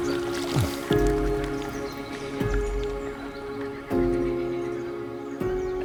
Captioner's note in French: Bruit de l'eau